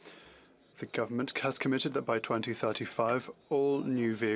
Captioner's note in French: voix de l'interprète